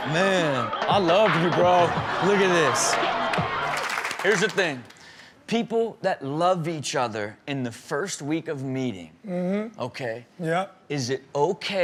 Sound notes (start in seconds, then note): 3.5 audience claps